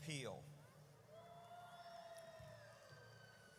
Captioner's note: audience cheers